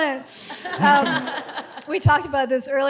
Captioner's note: laughs